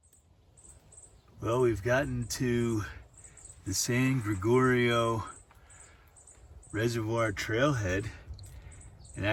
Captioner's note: birds twittering